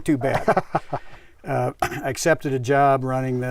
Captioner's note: laughs